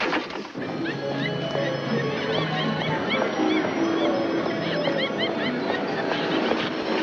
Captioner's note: cheerful music; people chattering